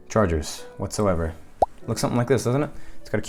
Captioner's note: bubble pop sound effect